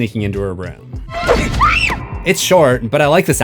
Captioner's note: screams